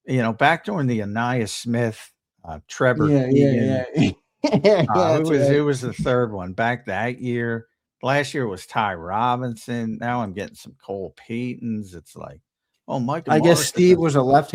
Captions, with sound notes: Back during the Ainias Smith, Trevor-- - Yeah, yeah, yeah. (laughs) - It was the third one. Back that year, last year was Ty Robinson. Now I'm getting some Cole Paytons. It's like, oh my god-- - I guess Steve was a left-hander?